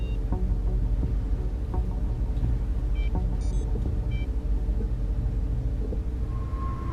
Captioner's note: tense music; machinery beeping